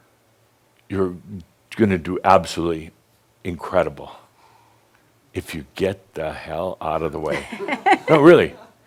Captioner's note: she chuckles